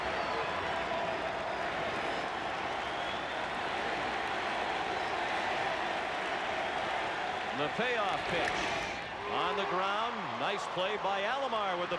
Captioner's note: applause